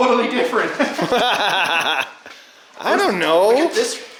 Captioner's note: laughing